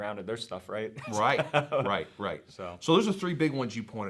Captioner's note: laughs